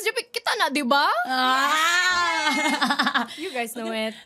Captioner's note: exclaims, chuckles